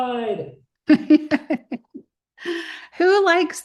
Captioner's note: laughter